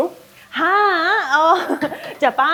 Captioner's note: chuckles